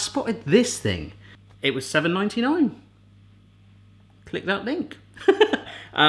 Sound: laughing

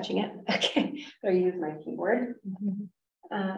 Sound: chuckles

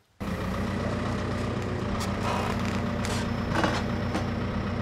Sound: equipment rumbles

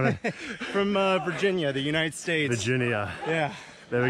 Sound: laughs

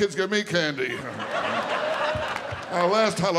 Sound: audience laughing

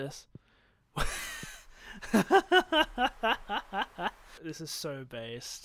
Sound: laughing

